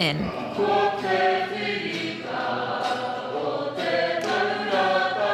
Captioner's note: singing in te reo